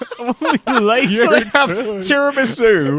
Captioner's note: laughing